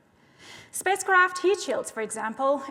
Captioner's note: none